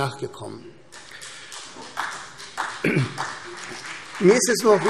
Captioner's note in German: Beifall CDU und vereinzelt BÜNDNIS 90/DIE GRÜNEN